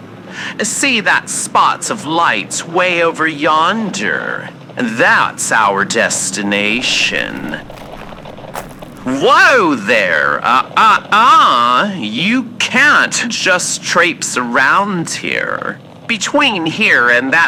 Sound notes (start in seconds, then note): 5.9 listener starts walking fx